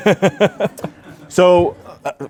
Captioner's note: laughs